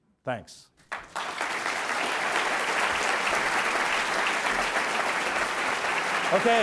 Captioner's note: audience clapping